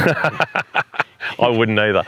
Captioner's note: laughter